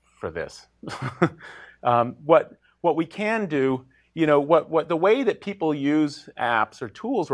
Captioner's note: laugh